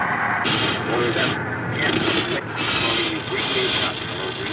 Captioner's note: cb radio chatter